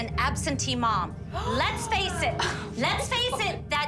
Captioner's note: gasps